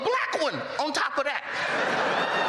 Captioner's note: laughter